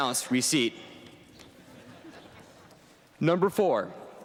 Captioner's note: laughter